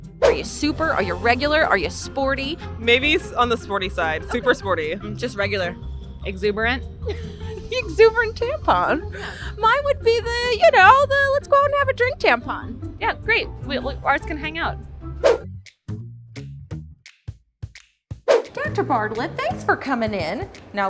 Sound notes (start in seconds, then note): 7.0 laughs; 14.7 bouncy music